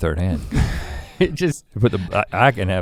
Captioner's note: chuckles